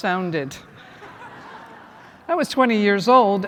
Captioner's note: laughter